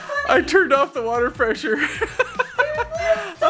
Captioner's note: laughs